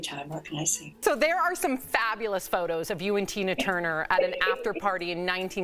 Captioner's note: laughter